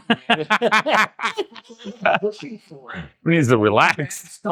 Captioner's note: laughing